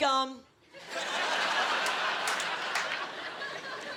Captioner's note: laughing